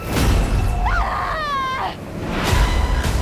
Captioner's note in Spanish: Gritos